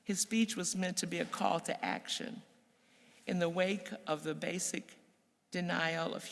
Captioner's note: none